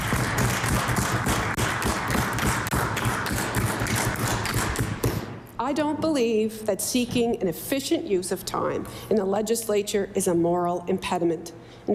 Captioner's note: applause